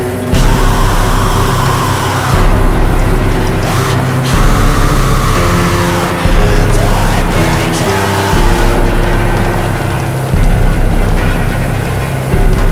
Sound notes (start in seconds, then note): 4.2 screams